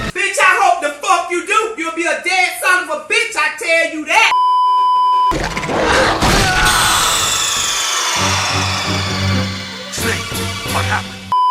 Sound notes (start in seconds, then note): 4.3 beeeeeep; 5.6 roar; 5.6 pained scream